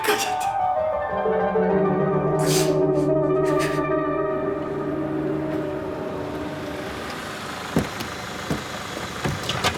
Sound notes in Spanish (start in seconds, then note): 4.3 Ruido del vehículo